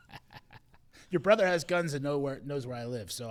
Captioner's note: laughing